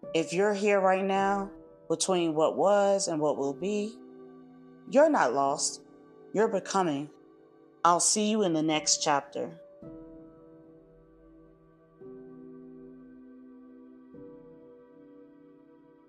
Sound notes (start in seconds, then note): 4.3 pause